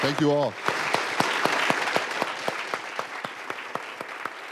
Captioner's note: audience applauding